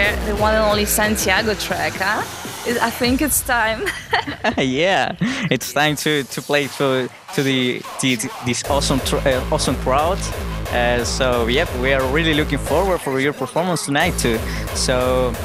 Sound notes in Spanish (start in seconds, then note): 3.8 risas